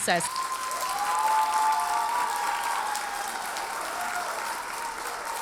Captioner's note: audience cheers and applauds